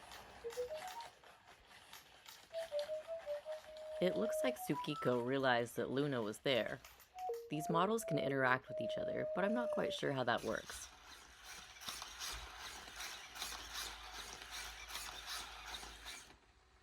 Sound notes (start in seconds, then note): 10.8 mechanical noises